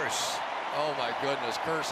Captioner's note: cheering